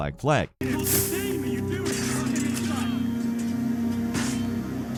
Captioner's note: characters shouting